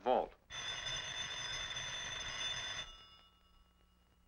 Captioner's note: phone ringing